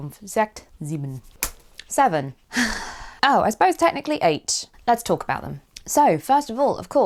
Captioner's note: counts in German; sighs